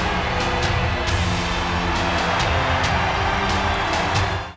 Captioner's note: audience cheers